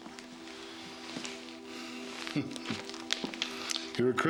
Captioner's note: chuckles